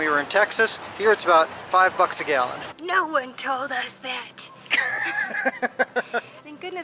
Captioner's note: laughter